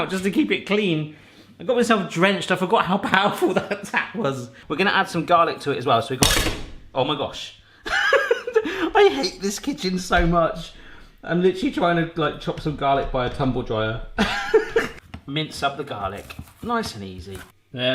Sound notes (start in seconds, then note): 7.8 laughs